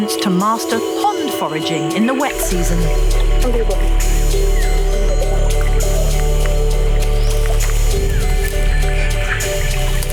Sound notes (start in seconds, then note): 3.6 in foreign language; 6.2 upbeat inspirational music